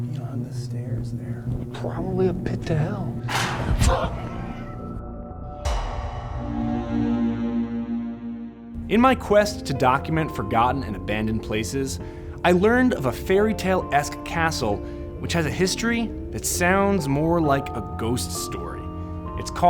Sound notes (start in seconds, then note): 4.1 sharp exhalation of breath; 5.4 creepy music